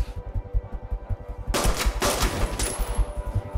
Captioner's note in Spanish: Disparos